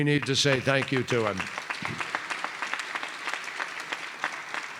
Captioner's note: applause